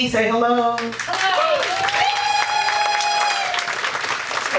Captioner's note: audience applauding